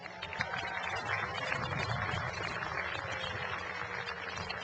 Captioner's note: cheering and applause